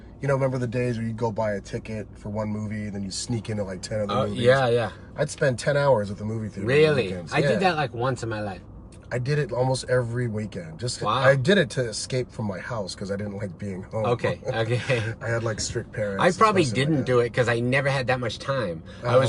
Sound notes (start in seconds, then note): 13.8 laughs